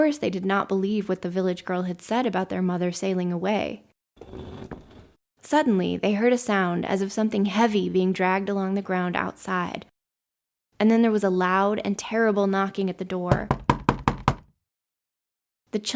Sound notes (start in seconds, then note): 4.2 dragging sound; 13.3 knocking